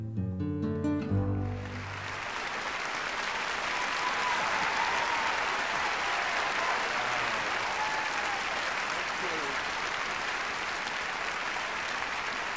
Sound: cheers and applause

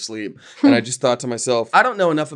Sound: laughing

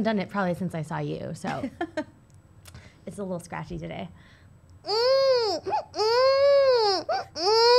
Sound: babie sounds

